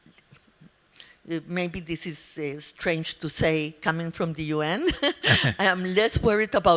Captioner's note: laughs